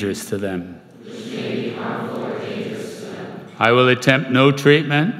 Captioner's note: crowd